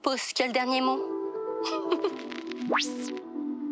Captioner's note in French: petit rire